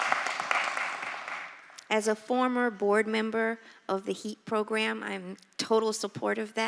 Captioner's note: applause